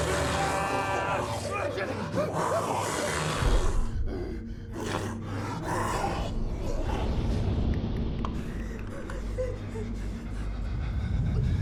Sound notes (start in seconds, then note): 8.0 clicking